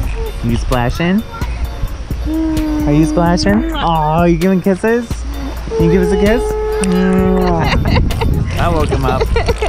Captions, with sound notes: You splashing? Are you splashing? Ah, you giving kisses? You give us a kiss? (lips smack) That woke him up.